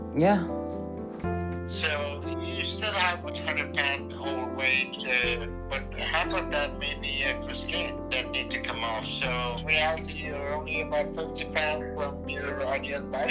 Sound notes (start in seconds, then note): 2.2 on phone